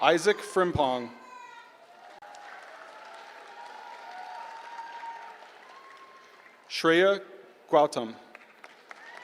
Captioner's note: applause; applause